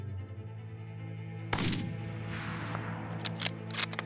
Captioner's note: gunshot